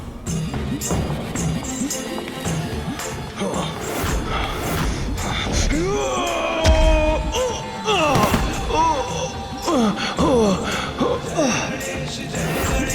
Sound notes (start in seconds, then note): 5.8 screams